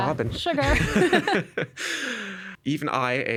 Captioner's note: both laughing